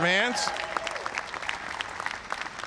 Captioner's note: applause